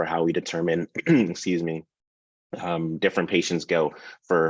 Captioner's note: clears throat